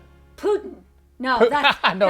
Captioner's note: laughing